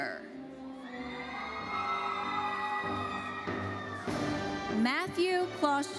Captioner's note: audience cheering and applauding